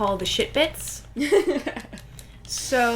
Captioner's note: laughter